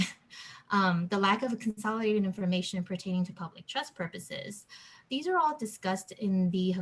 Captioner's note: background interference